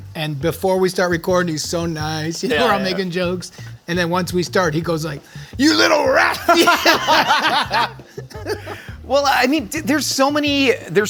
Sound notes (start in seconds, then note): 6.4 they laugh